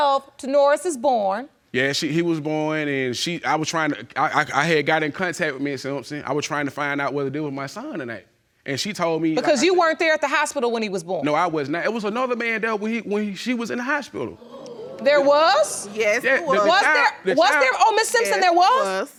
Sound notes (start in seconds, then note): 14.3 audience exclaiming